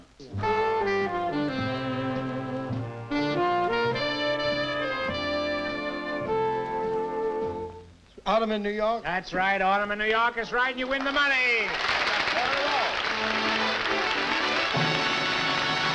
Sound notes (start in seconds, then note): 10.8 applause